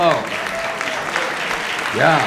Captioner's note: applause